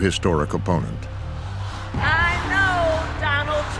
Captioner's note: chanting